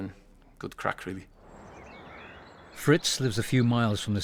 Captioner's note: birds chirping